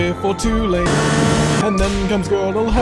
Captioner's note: race-car sound